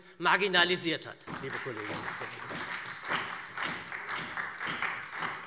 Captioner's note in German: Beifall SPD